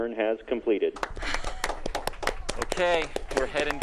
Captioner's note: applauding